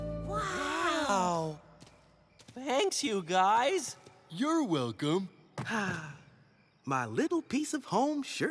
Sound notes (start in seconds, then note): 4.8 sighs